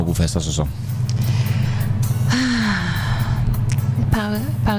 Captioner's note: sigh